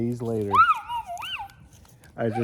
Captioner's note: happy Noises